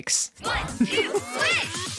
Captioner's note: laughter